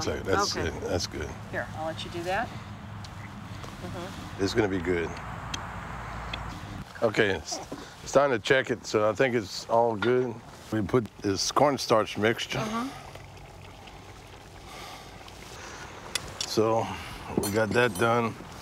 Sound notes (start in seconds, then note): 12.4 pot boiling